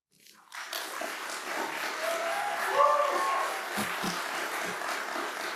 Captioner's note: applause